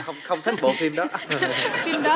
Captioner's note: laughing